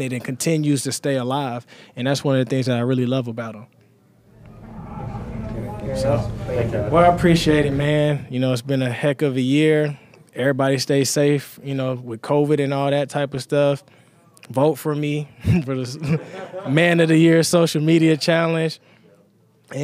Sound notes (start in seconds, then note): 16.0 laughs